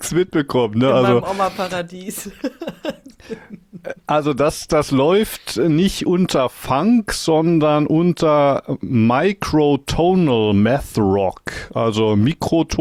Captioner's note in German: gelächter